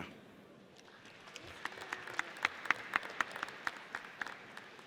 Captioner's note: audience applauds